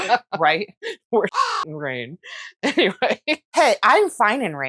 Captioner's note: caw